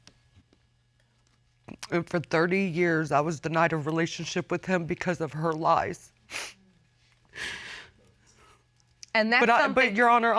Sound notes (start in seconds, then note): 7.3 sniffles